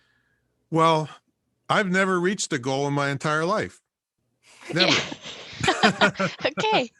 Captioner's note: all laugh